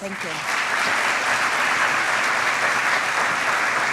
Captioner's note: applause